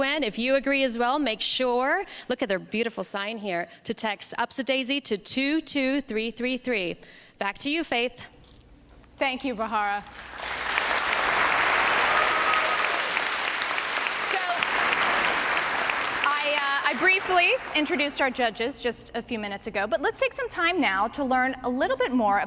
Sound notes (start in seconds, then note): 10.0 applause